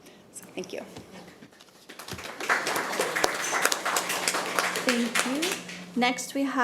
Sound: committee applauding

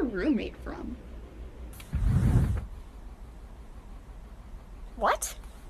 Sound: drawer opening

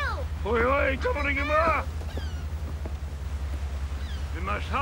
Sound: Te Ariki speaking foreign language

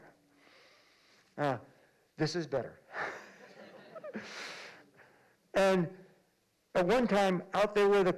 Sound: laughter

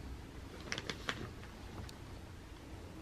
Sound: paper crinkling

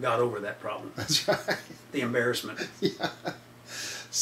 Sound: laughs

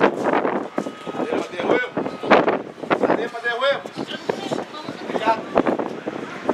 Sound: Spanish speaking

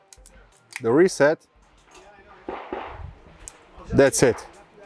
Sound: gun clanking

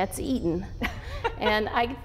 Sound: laughs

